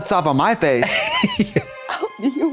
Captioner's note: Katya chortles